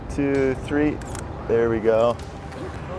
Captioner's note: camera clicking